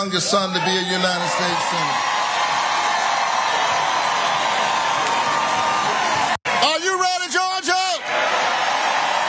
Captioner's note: applause; applause